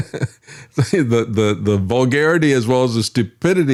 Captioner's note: laughing